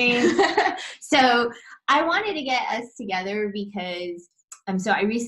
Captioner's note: laughs